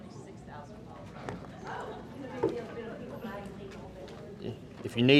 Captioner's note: group chattering